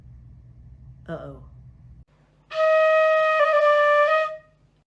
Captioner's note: horn